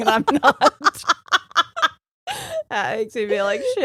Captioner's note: laughing